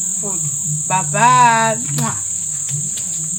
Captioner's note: kisses